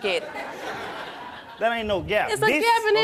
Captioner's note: laughing